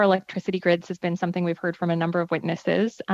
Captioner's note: speaking French